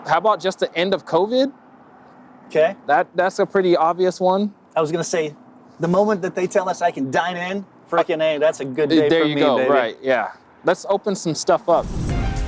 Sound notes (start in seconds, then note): 9.0 murmurs